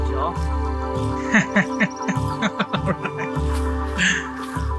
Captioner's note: laughing